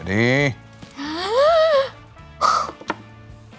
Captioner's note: gasps